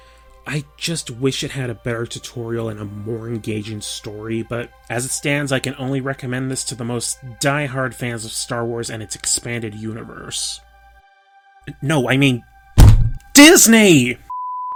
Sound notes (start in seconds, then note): 12.8 thud